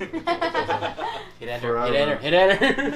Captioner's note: everyone laughs